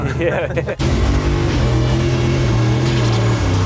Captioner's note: revving